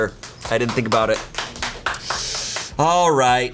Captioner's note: colleagues applauding